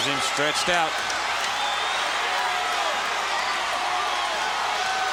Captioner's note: crowd cheering